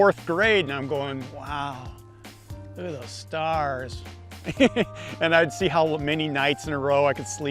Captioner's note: laughs